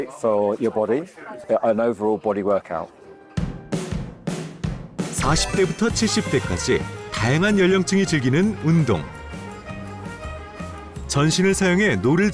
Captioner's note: voiceover